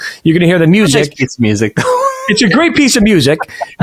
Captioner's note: chuckles